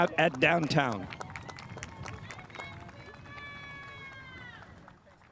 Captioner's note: spectators applauding